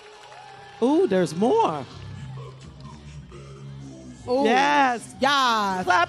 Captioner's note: cheers and applause